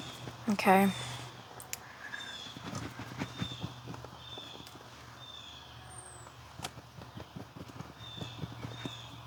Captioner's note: birds Chirping